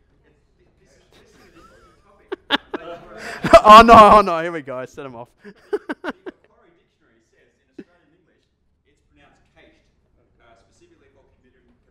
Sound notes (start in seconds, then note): 5.4 chuckles; 6.6 voiceover